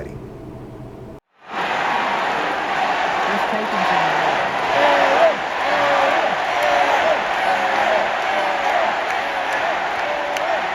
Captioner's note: Crowd Chanting "Arin, Arin, Arin!"